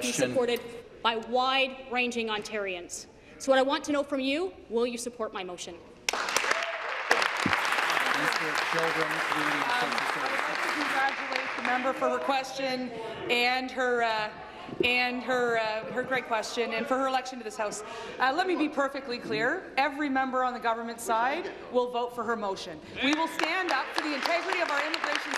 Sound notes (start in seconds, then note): 9.0 applause